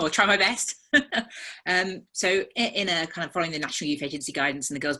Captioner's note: laughs